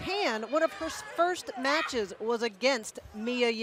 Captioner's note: none